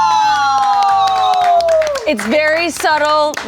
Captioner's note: claps